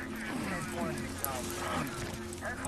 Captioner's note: police radio chatter